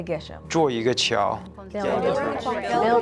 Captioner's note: in foreign language